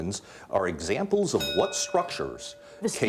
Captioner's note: bell dinging